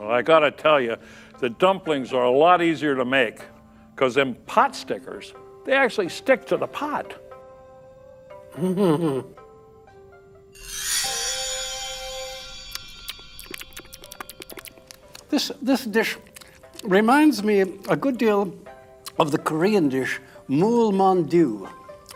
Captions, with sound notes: Well, I gotta tell you, the dumplings are a lot easier to make. Cuz them potstickers... they actually stick to the pot! (CHORTLING) (CHEWING SOUND) This... this dish reminds me a good deal of the Korean dish, mool man doo.